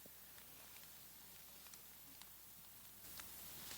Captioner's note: rain patters